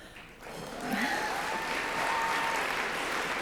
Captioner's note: applause